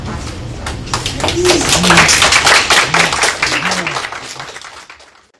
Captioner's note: applause